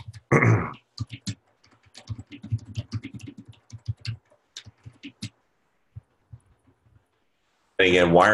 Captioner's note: typing Sounds